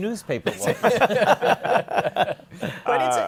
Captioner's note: laughter